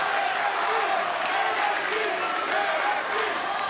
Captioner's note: crowd cheering